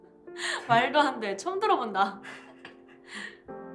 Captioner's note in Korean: 진희 웃음 소리